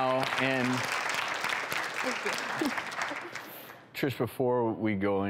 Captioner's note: audience applause